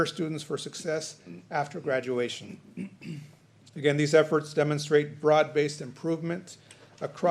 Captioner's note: clears throat